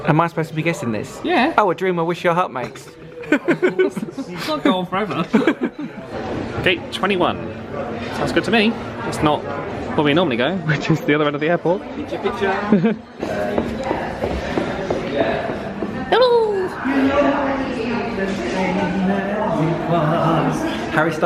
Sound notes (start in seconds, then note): 3.4 both laugh